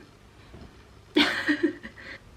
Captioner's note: laughs